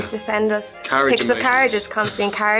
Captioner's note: chuckling